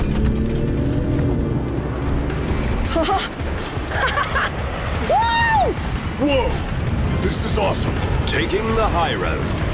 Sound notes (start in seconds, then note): 0.2 epic music; 1.5 engine rumbles; 3.8 laughs